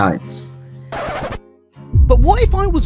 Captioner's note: record scratch